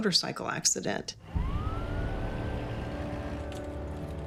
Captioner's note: siren wails